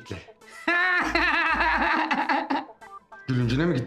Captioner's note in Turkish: Gülme sesi